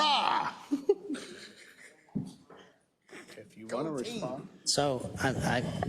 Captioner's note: laugh